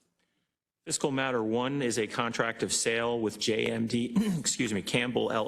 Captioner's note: cough